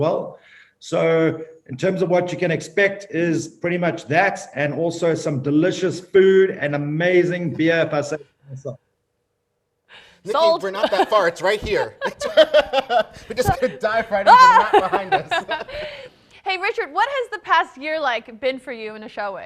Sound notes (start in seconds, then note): 10.4 laughing; 14.8 both laughing